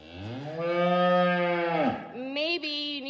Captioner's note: cow moos